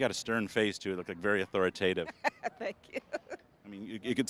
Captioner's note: laughing